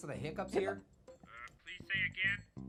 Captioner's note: Annoying Orange hiccups; voice On Phone